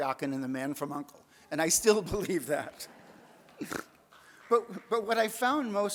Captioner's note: audience laughs, snorts